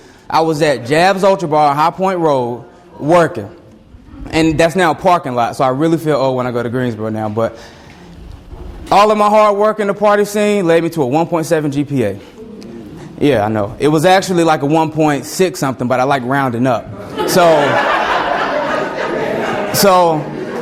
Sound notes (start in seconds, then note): 12.2 students moan; 17.0 students laugh loudly